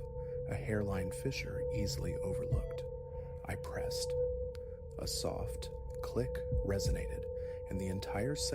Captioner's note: click